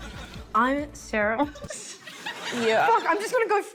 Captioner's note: laughs